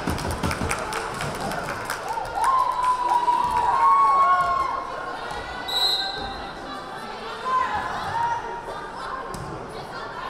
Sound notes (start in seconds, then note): 2.5 crowd cheering; 5.7 whistle blaring